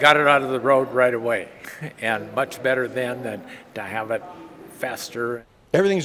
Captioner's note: chuckles